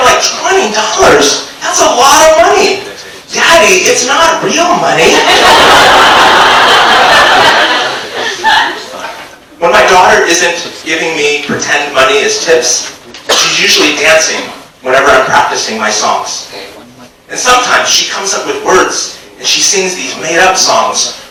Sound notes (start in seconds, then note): 5.0 audience laughs